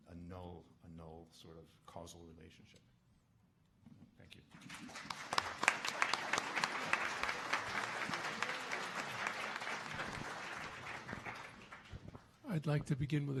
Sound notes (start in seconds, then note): 6.3 audience applauding